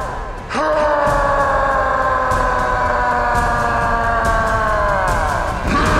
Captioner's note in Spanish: Grita; Gritos